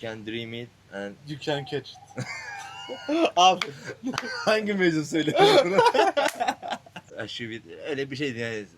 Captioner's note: laughs